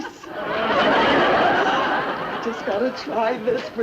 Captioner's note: audience laughing